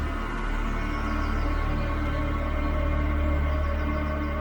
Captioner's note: birds chirping